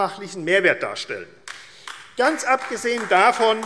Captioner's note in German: Beifall AfD